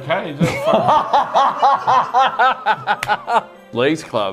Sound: laughs uncontrollably

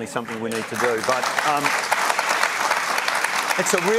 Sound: applause

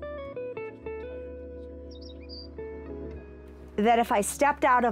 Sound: bird Sounds

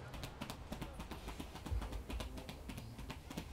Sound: thumping

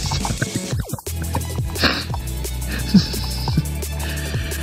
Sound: laughing

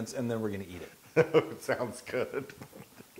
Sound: laugh

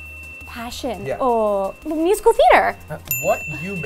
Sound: bell dings

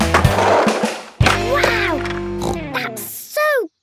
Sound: snorts

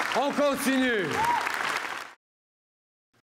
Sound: applause

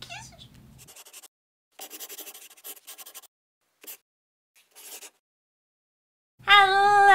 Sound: the sound of a pen scratching

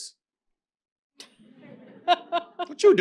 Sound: laughter

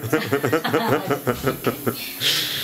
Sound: laughing

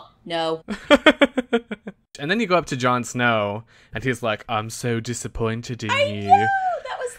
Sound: laughs

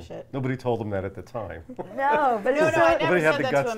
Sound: everyone laughs

